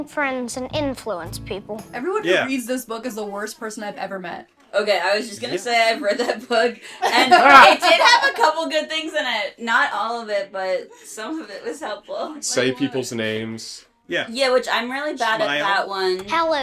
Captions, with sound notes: Everyone who reads this book is the worst person I've ever met. Okay, I was just gonna say I've read that book... [laughter] and it did have a couple good things in it! Not all of it, but some of it was helpful. Say people's names... Yeah. Yeah, which I'm really bad at that one. Smile?